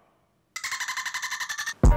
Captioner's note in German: Delfin-Geräusche